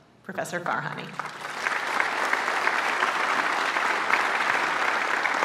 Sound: applause

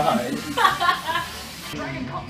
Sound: laughs

